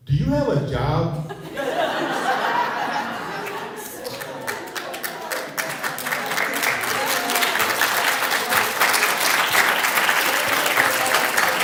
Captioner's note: laughter, applause